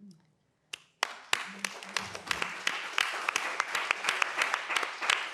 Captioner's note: panelists clapping